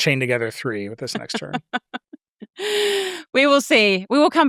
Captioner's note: chuckles